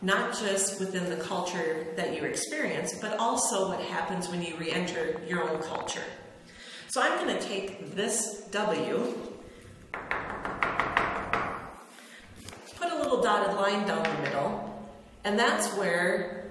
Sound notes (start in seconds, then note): 9.9 knocks on W with chalk